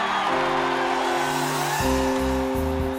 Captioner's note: cheering